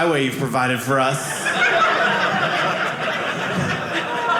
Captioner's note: audience laughing